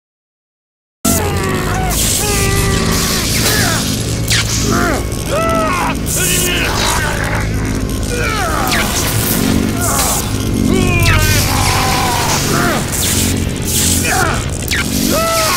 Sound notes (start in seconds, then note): 1.0 screaming